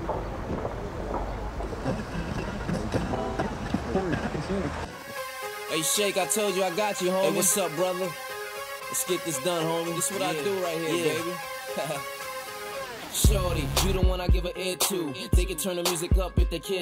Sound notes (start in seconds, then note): 0.7 radio tuning through stations; 11.7 chuckles